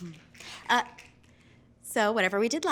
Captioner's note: fingers snapping